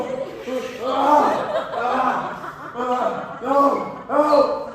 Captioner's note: screams